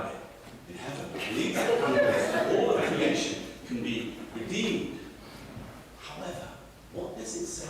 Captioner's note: audience laughter